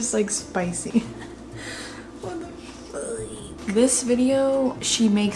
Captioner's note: laughs